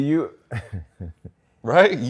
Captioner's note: chuckles